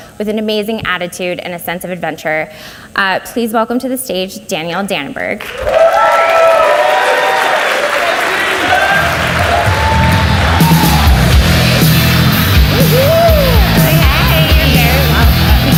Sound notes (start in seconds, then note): 6.0 audience cheers and applauds